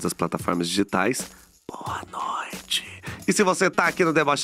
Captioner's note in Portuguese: sussurra